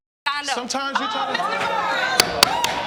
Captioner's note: audience exclaiming